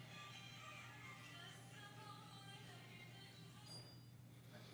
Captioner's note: cellphone rings